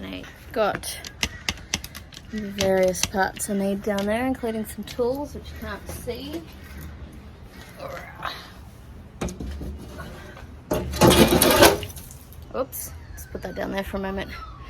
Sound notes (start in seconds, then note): 0.3 tripod clicks loudly; 7.9 grunts, and then wood slides loudly and heavily to the ground